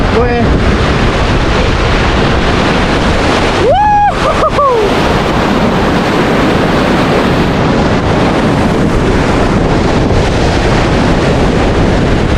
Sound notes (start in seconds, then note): 3.6 excited Screams